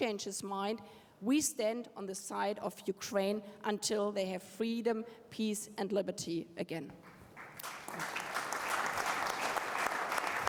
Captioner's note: applause